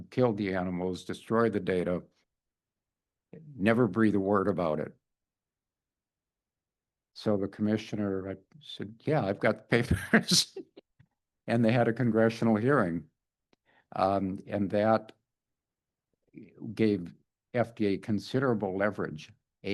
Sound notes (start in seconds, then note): 9.8 laughs